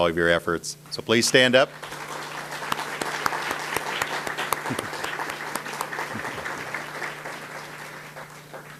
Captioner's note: audience applause